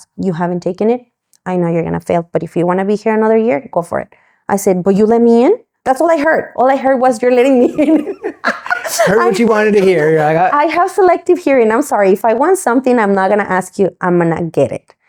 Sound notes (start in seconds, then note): 7.4 both laugh